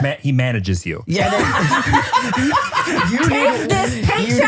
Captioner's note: laugh